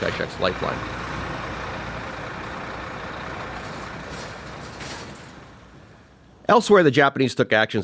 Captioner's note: sound effect: heavy truck engine starting